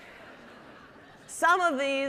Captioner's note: audience laughing